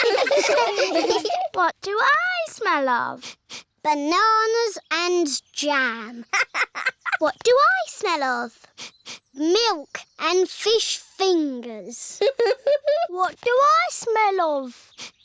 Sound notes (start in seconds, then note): 0.0 all giggle; 3.1 sniffs; 6.1 laughs; 8.6 sniffs; 12.1 chuckles